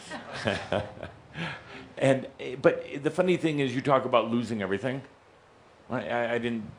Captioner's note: Adamus chuckles